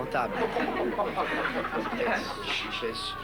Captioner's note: Rires